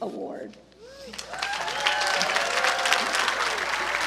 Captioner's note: applause